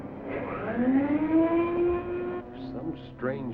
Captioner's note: machine whirring